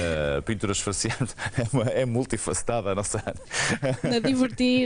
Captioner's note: laughter